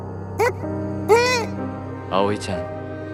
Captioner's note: sob